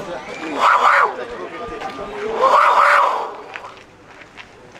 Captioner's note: jaguar hissing